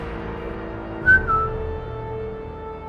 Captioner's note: sharp whistle